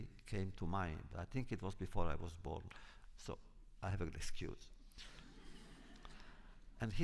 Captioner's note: laughter